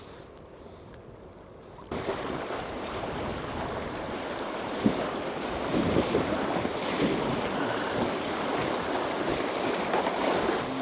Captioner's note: water splashing